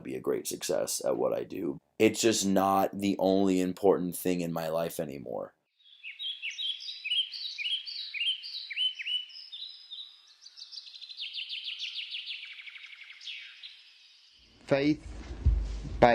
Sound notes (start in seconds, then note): 5.5 birds Chirping